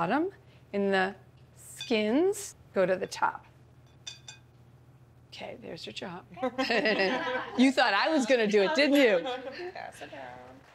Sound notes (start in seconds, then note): 6.4 laughter